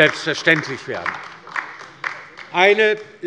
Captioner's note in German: Beifall bei der LINKEN